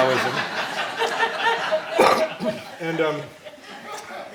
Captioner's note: laughing